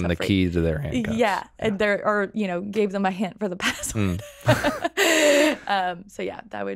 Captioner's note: laughing